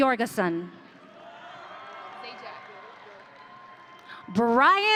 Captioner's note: audience cheering